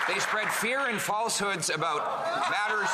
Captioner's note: some Applause